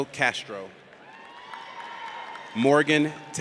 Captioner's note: audience cheers